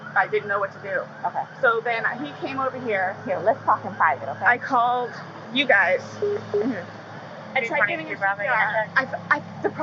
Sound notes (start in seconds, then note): 6.2 police radio beeps; 7.6 officer speaking on radio